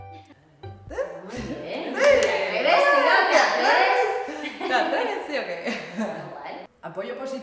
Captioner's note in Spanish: Risas